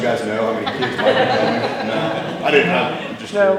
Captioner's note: crowd laughing